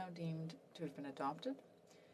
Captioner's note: speaking in French